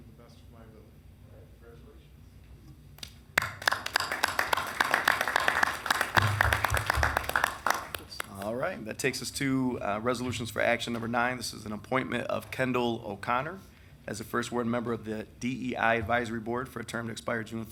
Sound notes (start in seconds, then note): 3.3 applause